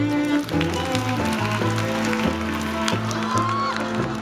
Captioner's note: applause